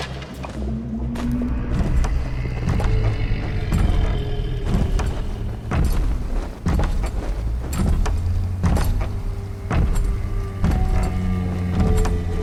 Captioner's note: low, continuous moan, weighty footsteps, creaking of wood